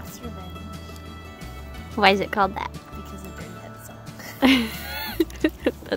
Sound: laughs

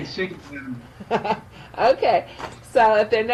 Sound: laughs

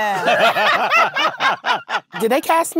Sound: laughs

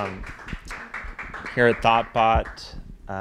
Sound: applause

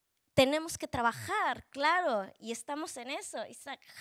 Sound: speaking Spanish

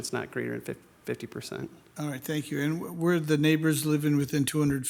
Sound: none

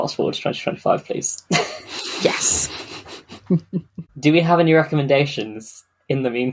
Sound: laughs

